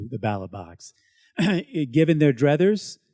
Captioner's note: clears throat